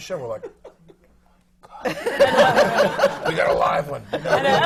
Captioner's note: laughter